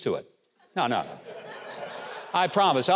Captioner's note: audience laughing